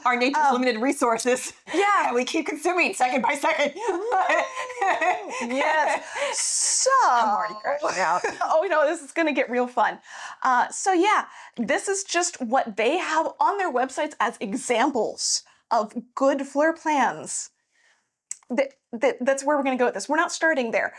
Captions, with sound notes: Our nature limited resources. Yeah, we keep consuming second by second. (laughing) Yes, so. It's a hard year. Oh, you know, this is gonna get real fun. So yeah, this is just what they have on their websites as examples of good floor plans. That's where we're gonna go with this. We're not starting there.